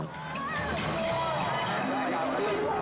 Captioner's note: onlookers gasping